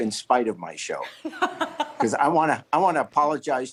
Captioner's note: laughs